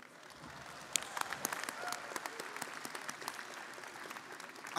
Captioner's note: audience applauding